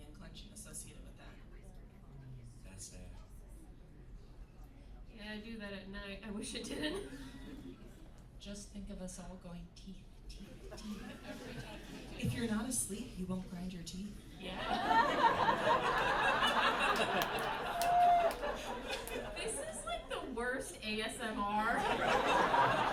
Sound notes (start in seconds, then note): 14.5 laughter